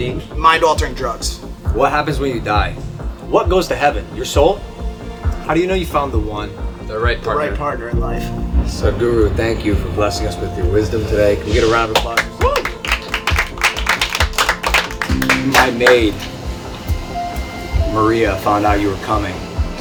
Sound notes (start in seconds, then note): 14.4 cheering/Applause